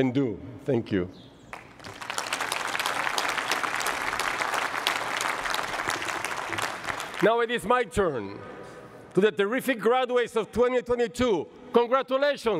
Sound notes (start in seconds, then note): 1.5 applause